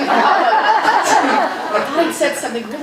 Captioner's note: audience laughing